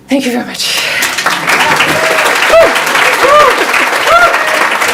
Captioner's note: audience applauds